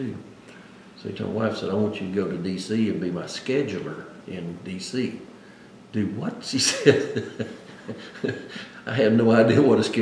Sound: laughs

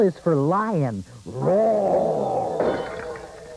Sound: lion roars

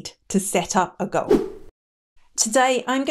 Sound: air whooshing

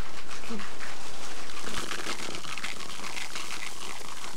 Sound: cereal crinkling

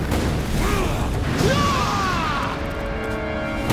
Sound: grunting

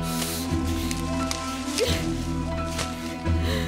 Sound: rambling of bushes

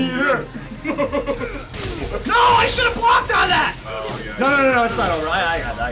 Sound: laugh

